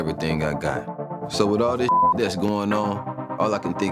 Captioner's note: beep